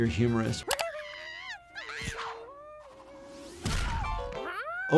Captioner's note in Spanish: Sniffles grita